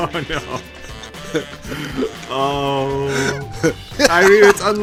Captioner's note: laughing